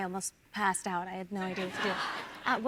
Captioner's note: audience laughs